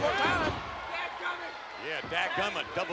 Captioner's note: mumbling